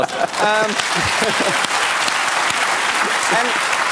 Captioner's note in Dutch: applaus